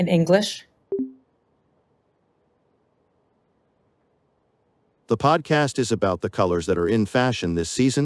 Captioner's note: speech deactivation sound